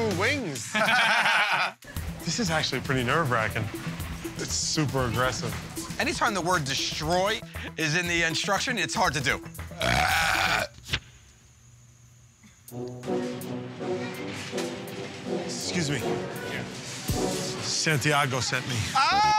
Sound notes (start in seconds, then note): 0.6 laughter; 9.7 burps loudly